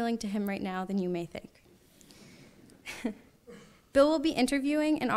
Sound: laughs

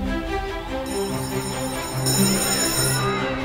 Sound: bell ringing

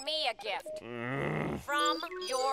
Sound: groaning

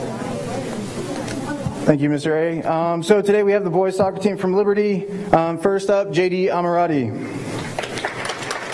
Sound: applause

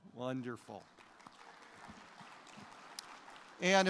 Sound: applause

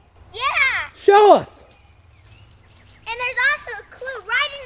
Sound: voiceover

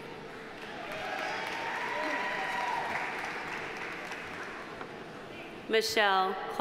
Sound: audience applauding; audience cheering

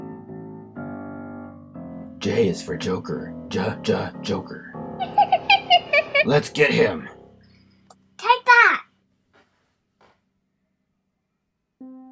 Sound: joker laughing

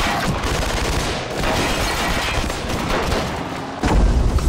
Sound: guns firing

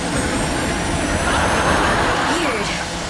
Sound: laughing

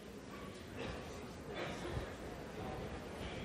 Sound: chatter

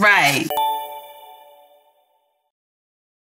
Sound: tinkling

